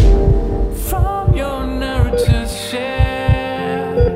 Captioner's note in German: Rhythmischer Piepton, Herzschlag; Gefühlvolle Musik